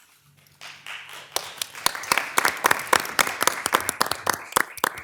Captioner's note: attendees applauding